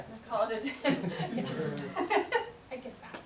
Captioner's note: laughter